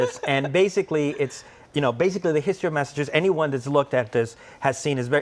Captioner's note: laughr